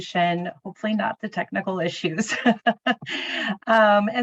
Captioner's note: chuckling